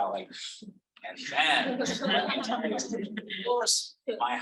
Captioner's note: audience laughing